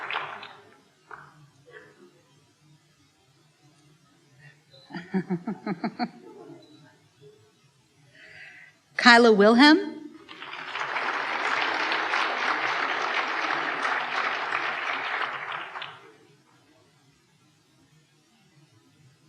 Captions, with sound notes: (laughs) Kyla Wilhelm. (applause)